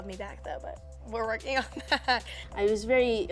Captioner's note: laughs